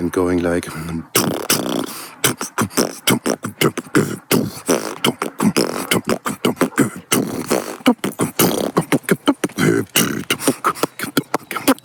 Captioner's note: glorious air-didge